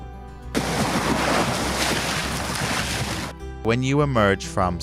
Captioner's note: sound of waves